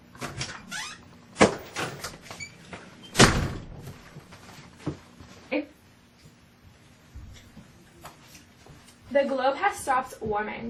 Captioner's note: door opens and closes